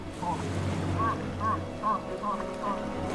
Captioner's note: bird cawing